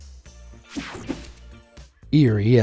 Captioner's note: screen whooshing